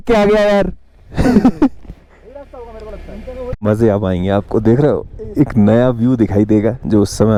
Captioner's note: laughter